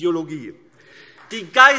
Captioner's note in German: Beifall AfD